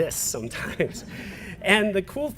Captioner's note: laugh